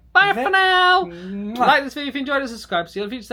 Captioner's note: lips smacking